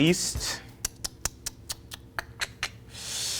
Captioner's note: Kwame clicks tongue; Kwame inhales